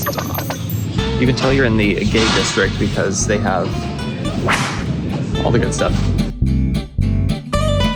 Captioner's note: whipping sound